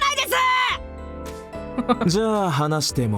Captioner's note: chuckles